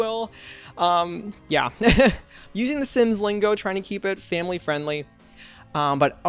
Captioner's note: laughs